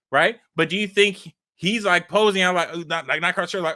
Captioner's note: stammering